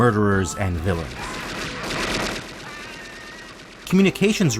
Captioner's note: gunshots